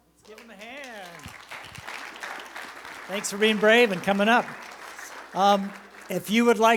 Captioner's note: applause